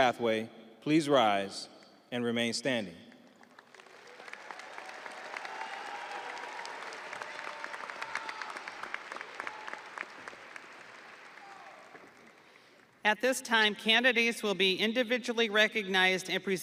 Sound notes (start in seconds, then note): 9.2 audience applauding; 9.2 audience cheering